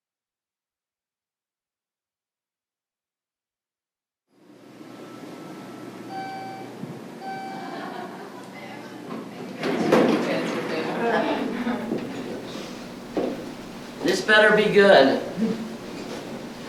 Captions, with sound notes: (elevator dings) (people chattering) - This better be good.